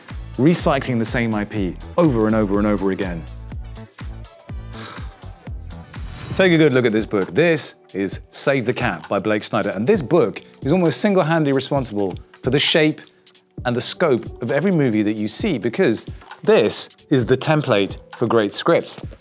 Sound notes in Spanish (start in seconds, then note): 4.6 Suspiros